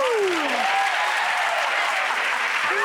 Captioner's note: audience cheering and clapping; audience clapping; laughing